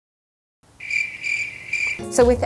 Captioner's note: crickets chirping